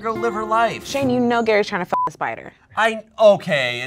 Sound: beep

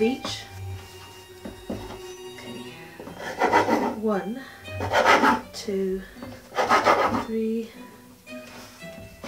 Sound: sound of knife on board

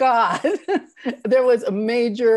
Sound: chuckles

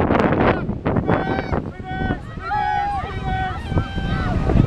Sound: kids yelling

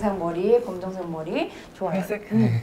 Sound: argh

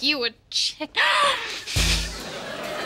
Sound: gasping

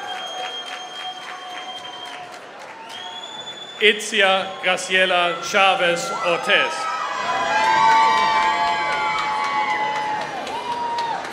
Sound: applause

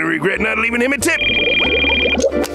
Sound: phone ringing

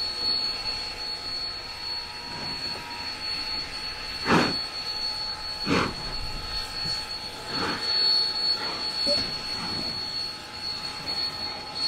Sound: locomotive chugging

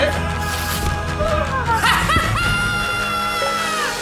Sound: laughter

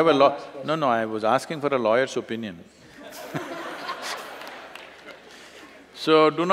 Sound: laughter

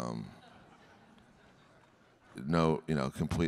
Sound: audience laughing

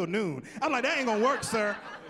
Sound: laughing

